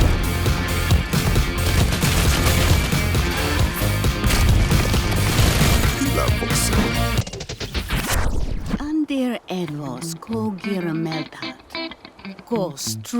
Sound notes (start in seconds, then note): 5.8 muttering